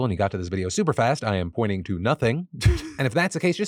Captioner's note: laughs